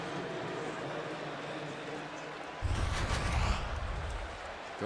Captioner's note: pa announcement